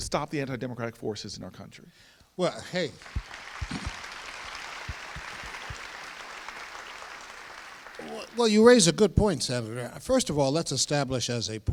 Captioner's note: audience applauds